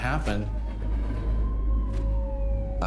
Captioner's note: ambulance siren waling